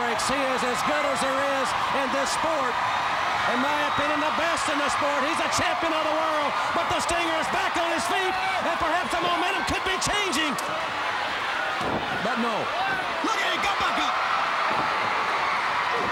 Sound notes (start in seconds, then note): 3.0 crowd cheering; 10.9 crowd cheering